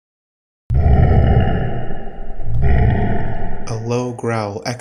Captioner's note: animal Growl